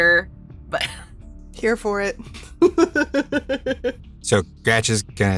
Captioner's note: chuckles